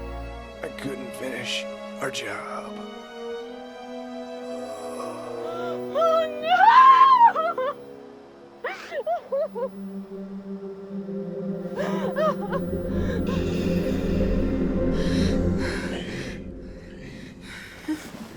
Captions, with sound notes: I couldn't finish our job. (slow music) - Oh, no! (sobbing) - Hey, hey.